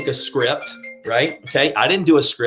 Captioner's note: phone ringing